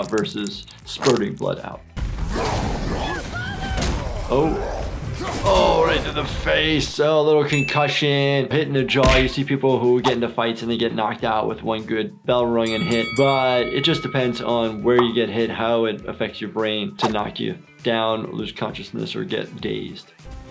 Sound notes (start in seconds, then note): 12.7 bell rings